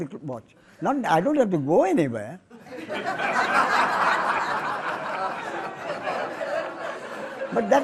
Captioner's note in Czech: smích